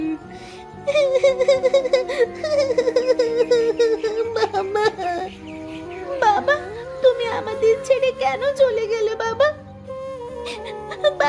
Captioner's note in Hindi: ज़ोर से हँसी